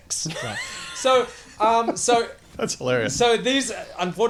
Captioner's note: laughs